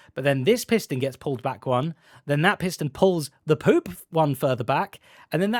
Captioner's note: none